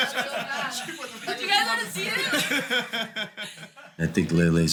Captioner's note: laughter; laughter